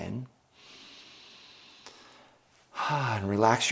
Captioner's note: inhales deeply